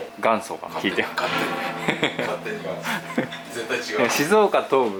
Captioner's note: laughs